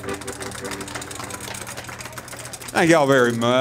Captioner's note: audience applauds